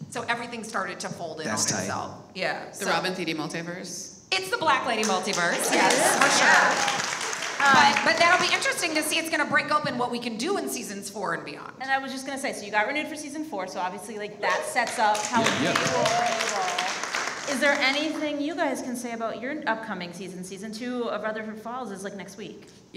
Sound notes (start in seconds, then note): 6.6 audience applauds; 15.1 audience applauds